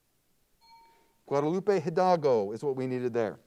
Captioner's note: timer bell dings